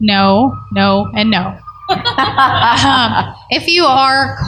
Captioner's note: laughter